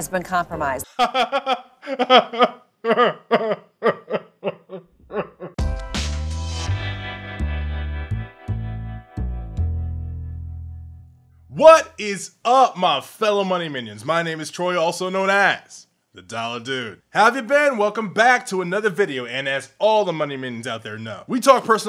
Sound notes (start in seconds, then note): 1.2 pained crying